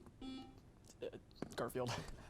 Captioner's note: buzzer beeps